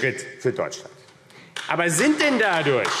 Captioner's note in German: Beifall AfD